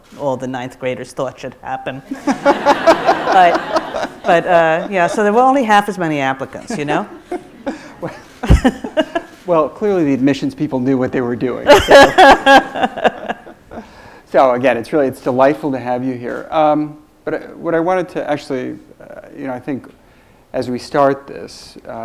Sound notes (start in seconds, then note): 2.1 audience laughs; 11.7 laughs